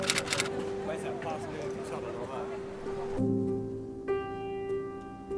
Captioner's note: speaking in foreign language